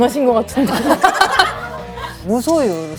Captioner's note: haha